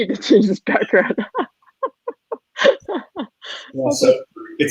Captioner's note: laughing